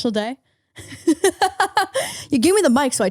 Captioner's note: laughing